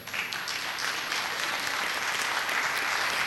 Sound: applause

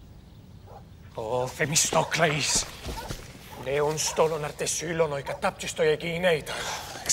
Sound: friend shouting in foreign language; Themistocles sighs

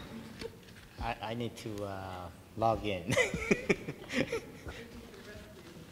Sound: laughs

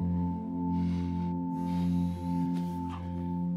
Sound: cellphone vibrates

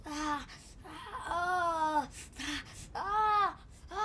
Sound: wincing and moaning

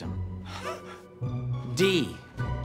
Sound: laughs

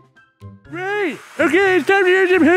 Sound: Hoover noise in background

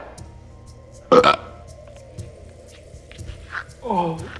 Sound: burp

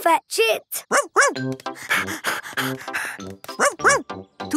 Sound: panting

